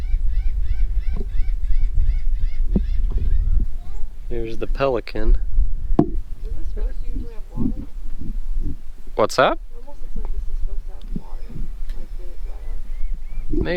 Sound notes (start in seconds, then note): 0.0 pelican squawking